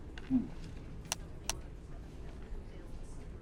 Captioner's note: phone clicking